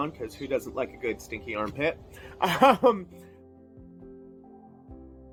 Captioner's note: laugh